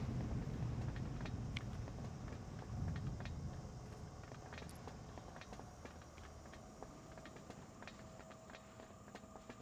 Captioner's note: footsteps